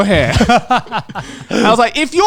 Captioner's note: all laughing